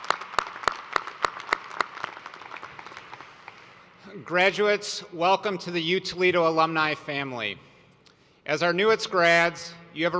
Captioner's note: applause